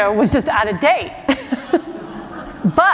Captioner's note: laughter